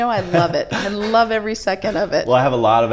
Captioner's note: chuckles